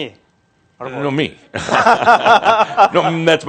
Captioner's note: they laugh